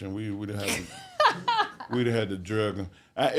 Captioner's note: hostess laughs